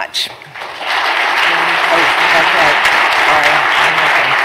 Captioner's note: applause